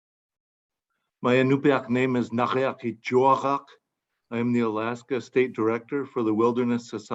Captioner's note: in Inupiaq